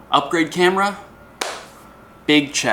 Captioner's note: clap